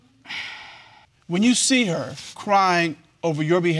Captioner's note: sighs